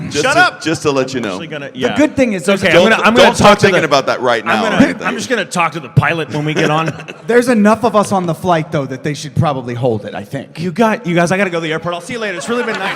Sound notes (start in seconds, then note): 6.3 laughing; 12.3 laughter, applause